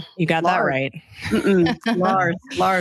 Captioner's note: laughs